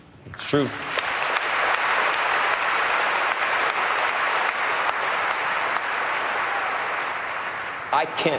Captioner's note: applause